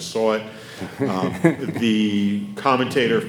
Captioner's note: laughing